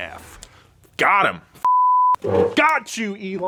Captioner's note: beep